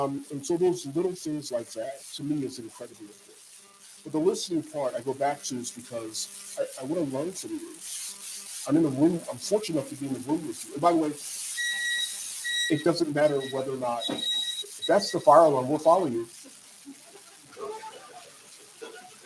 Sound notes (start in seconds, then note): 12.3 external alarm sounds; 16.8 laughter from audience